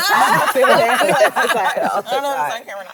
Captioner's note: all laugh